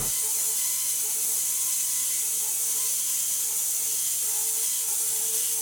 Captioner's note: electric saw screeching